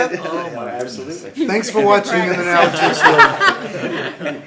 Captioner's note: laughter